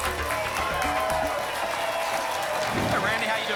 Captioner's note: applause and cheering cont